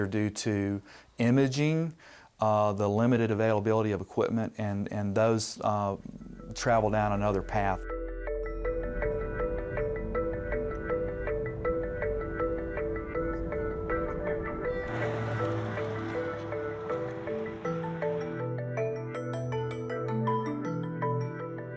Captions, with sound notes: either due to imaging, the limited availability of equipment, and those travel down another path. (playful instrumental music) (traffic passing)